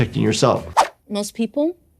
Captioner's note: air whooshing